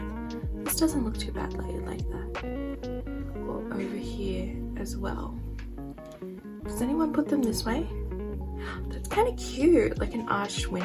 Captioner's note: gasps